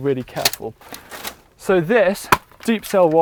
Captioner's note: trays scraping on surface